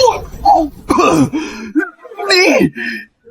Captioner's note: cough